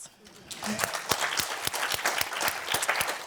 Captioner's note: applause